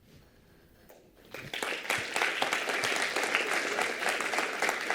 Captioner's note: applause